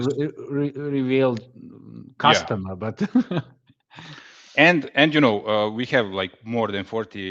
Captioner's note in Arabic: ضحك